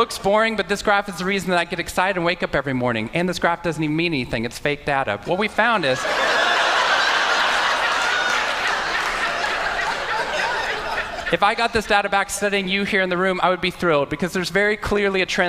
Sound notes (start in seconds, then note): 5.8 Laughter; 5.8 笑聲